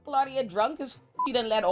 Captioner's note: beep